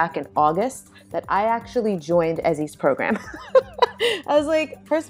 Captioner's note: laughs